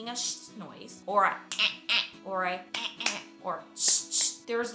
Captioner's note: snap; clap